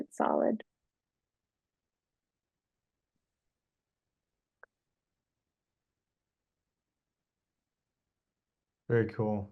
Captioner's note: silence